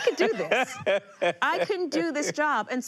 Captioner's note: laughing